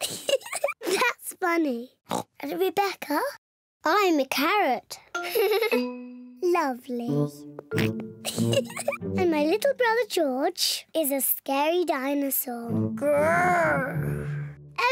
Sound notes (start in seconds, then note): 0.1 giggles; 2.1 oinks; 5.2 giggles; 7.7 george oinks; 8.2 giggles